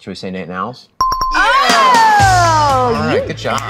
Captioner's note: bell dings